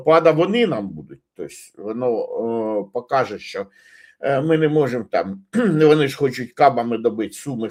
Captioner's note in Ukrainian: прочищення горла